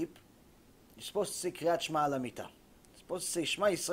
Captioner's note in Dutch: hebreeuws